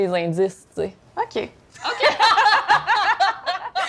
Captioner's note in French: rires